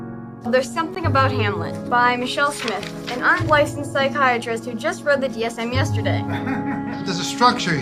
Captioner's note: chuckles